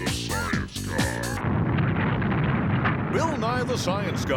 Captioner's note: rumbling